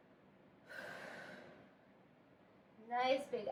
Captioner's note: exhale